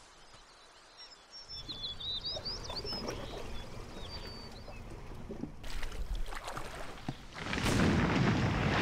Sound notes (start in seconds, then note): 0.0 birds singing, insects humming; 2.3 water splashing; 7.4 loud thunderous crashing